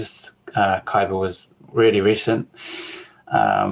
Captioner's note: exhales